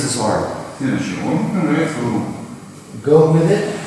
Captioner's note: speaking in a foreign language